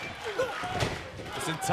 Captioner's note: fans chanting